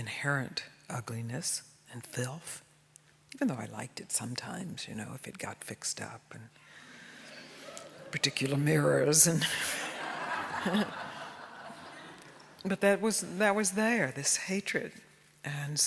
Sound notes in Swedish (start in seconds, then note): 9.6 alla skrattar